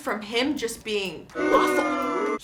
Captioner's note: booing